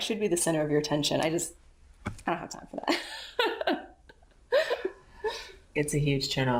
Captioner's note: laughs